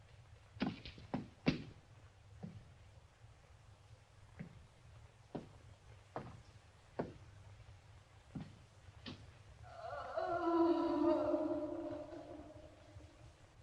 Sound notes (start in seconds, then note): 9.6 woman moaning